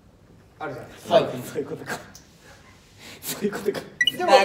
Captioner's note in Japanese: 小声